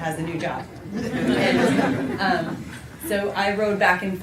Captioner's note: laughter